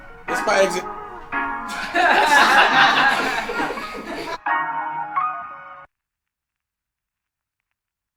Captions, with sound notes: This is my exit. (laughing)